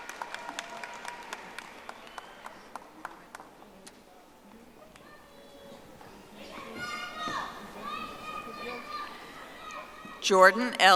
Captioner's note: audience applauding